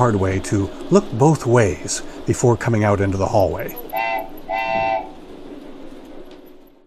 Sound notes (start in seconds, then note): 3.9 cartoonish train whistle sound